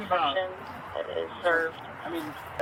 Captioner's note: radio chatter